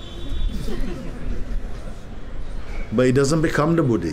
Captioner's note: laughter